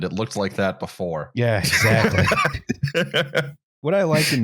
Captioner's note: laughs